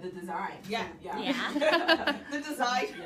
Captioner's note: laughter